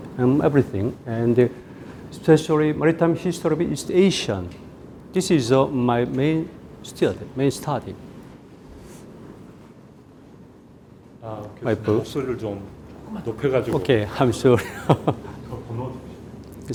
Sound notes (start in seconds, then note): 11.6 speaking in Korean; 14.3 laughs; 15.6 speaking in Korean